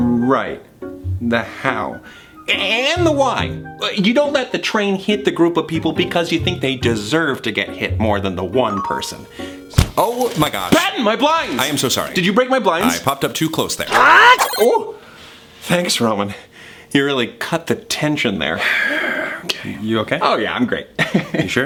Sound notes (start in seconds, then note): 8.7 text box notification dings; 9.7 text box thuds; 13.9 yells; 18.7 sighs; 21.3 laughs